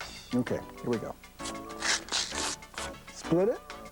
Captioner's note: ripping